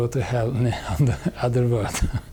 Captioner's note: chuckling